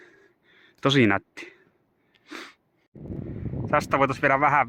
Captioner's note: sniffle